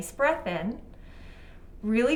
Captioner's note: inhaling